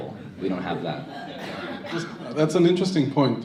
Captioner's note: crowd laughs